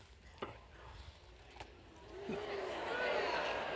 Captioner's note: audience reacts